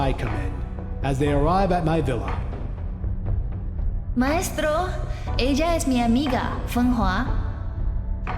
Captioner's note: in character, in Spanish